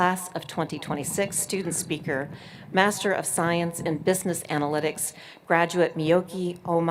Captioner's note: none